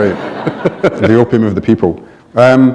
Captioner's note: laughter